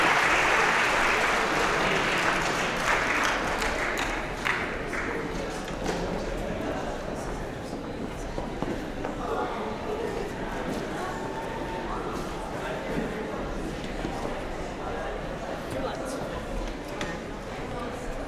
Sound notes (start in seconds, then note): 0.0 applause; 6.0 general chatter